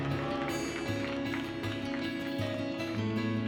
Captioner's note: clapping